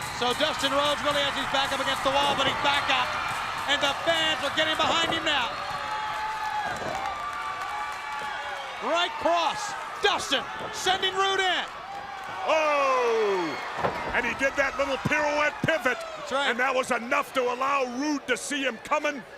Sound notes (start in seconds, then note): 0.0 crowd cheering; 6.5 crowd cheering